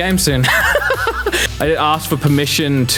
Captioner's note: laughing